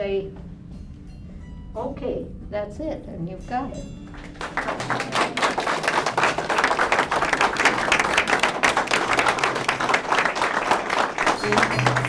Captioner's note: applause